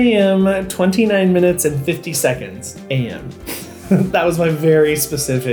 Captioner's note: chuckles